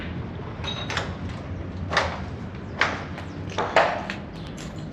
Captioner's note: debris crunching